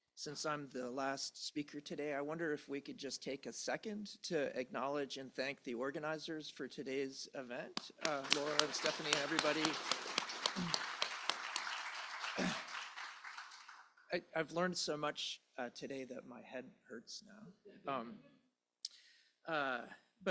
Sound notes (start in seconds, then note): 10.0 applause